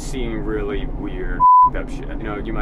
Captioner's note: beep